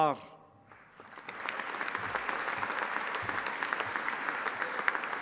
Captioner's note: audience applauding